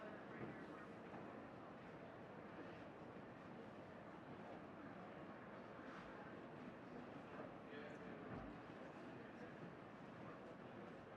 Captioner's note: people chattering